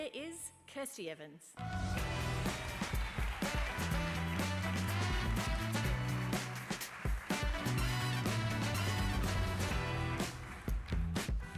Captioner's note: applause